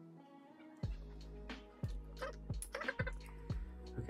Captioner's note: vocal electronic audio scrubbing